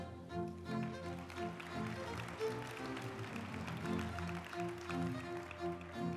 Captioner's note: uplifting music; group applauding